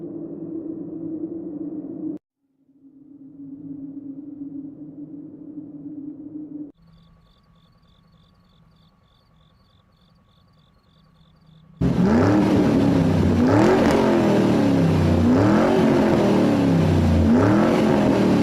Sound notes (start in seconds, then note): 6.7 crickets chirping; 11.4 car engine